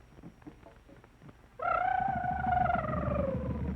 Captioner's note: mouth trilling; drumming slows